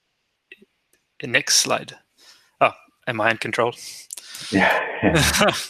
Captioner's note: laughs